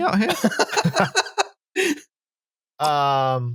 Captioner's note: laughter